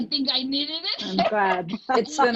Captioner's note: laughing